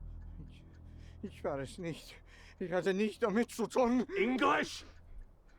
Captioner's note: muttering in German